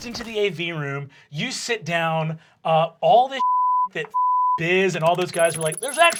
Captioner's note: beep